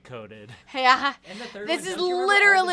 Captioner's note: laughs